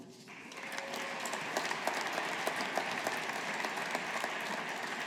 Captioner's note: audience applauding